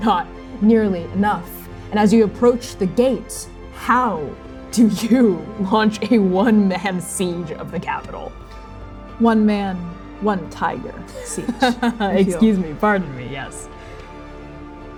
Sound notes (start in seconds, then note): 11.1 laughing